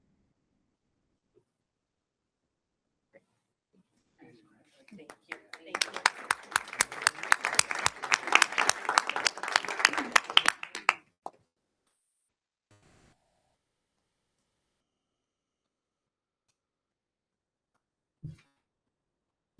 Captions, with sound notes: Thank you so much. >>Thank you. >>Thank you. (audience applauding)